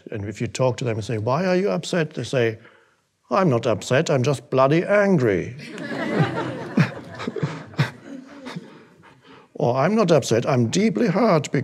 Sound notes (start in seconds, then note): 5.6 audience laughing